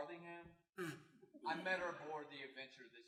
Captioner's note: snorts laughter